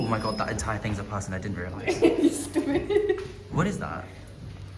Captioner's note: laughter